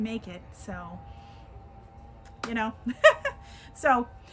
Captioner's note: chuckles